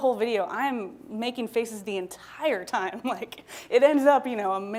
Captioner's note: laughing